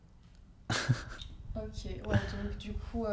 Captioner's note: laughs